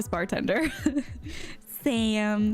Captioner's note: chuckles